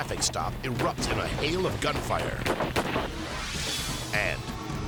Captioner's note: gun bangs